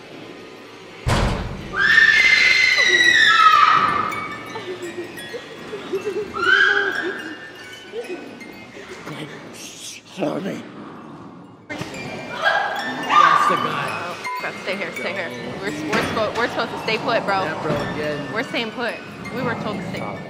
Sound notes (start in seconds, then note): 1.0 loud banging; 1.7 ghastly screeching; 2.7 whimpering; 8.8 shushing